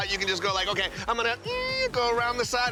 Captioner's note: imitates tire screeching